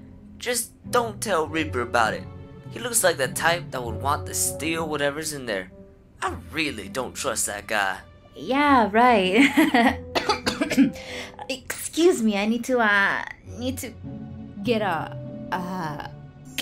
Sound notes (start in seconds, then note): 9.6 coughs